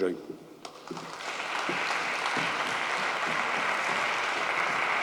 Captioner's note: audience applauds